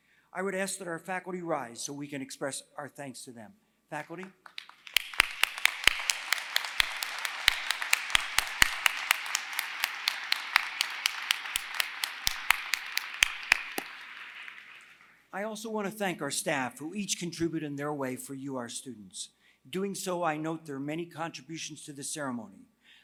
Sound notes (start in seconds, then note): 4.0 applause